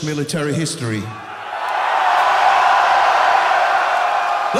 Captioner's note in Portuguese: Gritos